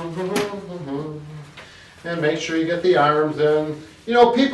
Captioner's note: humming